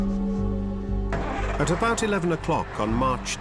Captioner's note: engine starts